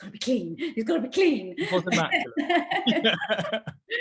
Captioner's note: laughs